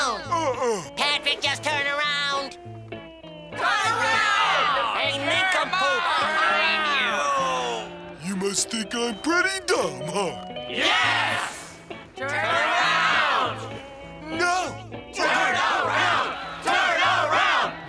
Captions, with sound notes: -Nuh uh. -Patrick, just turn around. [crowd yelling] You must think I'm pretty dumb, huh? Yes! Turn around! No. Turn around! Turn around!